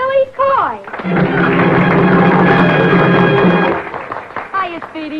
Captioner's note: audience applauding